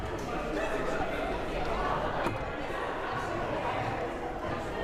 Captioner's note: crowd murmuring